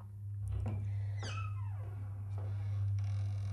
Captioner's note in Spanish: ruido de puerta abriendo